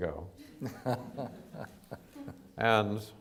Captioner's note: chuckles